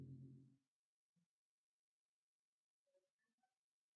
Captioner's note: silence